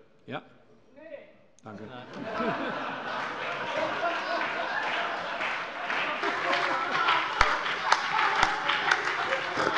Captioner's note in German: Allgemeine Heiterkeit